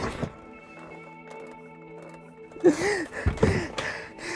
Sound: heavy panting and stomping; crying

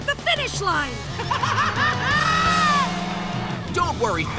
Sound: laughing

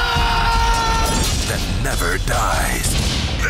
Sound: voiceover

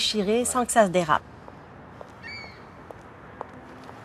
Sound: bird calling

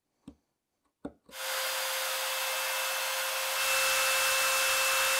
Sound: saw zings

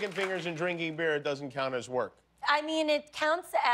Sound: applause

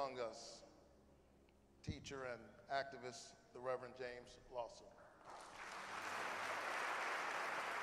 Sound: applause

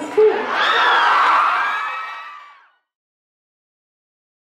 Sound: audience cheers

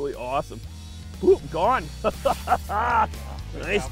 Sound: laughs

